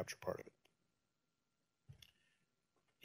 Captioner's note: pause